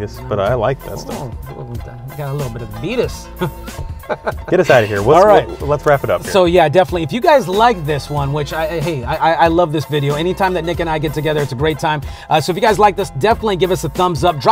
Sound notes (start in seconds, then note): 3.2 laughs